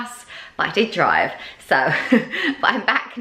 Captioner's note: laughing